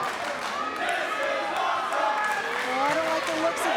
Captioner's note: clapping